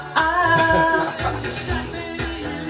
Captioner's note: laughing